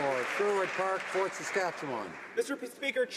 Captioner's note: some Applause